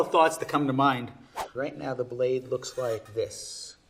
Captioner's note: air whooshing